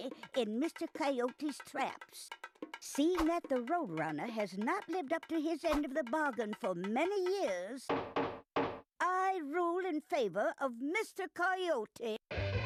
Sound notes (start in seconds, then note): none